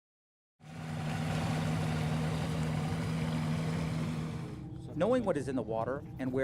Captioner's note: boat motor sound